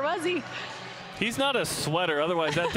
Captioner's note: laughter